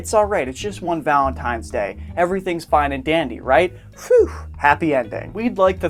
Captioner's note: whoo